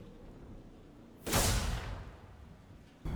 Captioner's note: bang